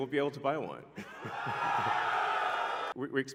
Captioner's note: crowd cheering